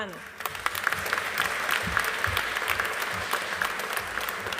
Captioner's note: audience applauding